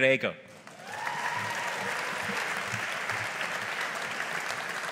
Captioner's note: audience applauding